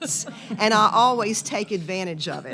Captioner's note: audience chuckles